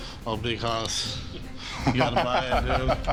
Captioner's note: laughs